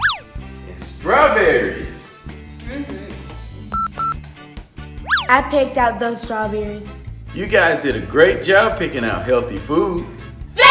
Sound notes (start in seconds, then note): 3.7 beeping